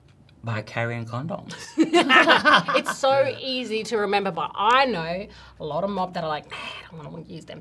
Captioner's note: laughs